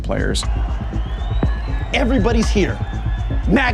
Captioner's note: crowd cheering